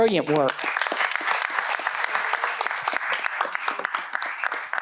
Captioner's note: applause